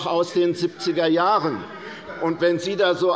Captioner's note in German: Zurufe der Abg